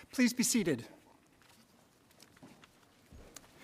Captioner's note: none